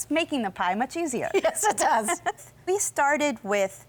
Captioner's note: both laughing